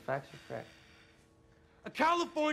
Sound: alex breathing heavily

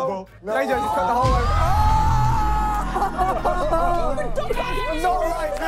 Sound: contestants and yelling

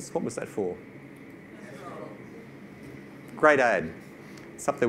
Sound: audience responds

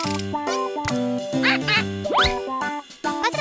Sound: quacks; Nina speaks gibberish

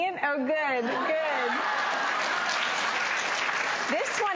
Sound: crowd applauds

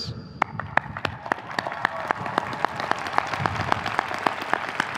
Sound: audience cheering

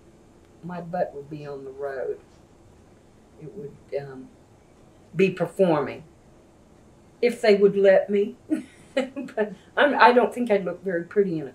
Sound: laughs

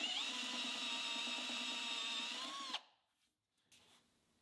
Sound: tool whirring

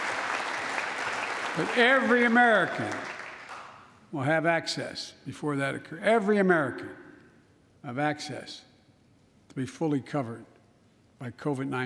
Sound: applause

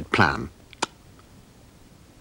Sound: tongue Smack

